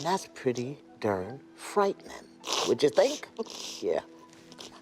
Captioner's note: sniffles